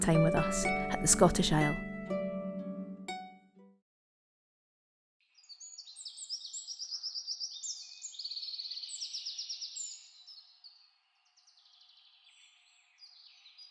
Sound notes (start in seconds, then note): 7.9 birdsong